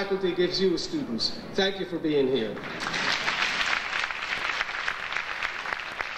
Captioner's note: audience applauding